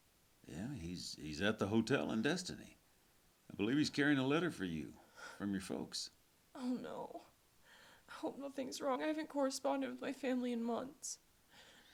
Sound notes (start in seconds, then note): none